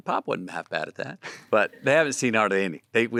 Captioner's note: Timothée chuckles